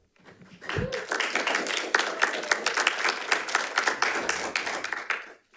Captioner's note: audience cheering and applauding